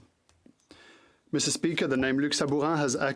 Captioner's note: speaking French